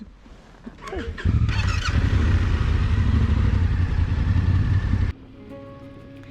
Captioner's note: motorcycle engine rumbling; adventurous bright music